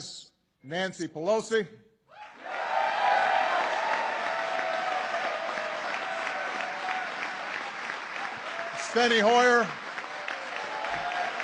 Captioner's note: applause